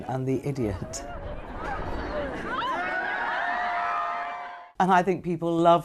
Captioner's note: crowd cheering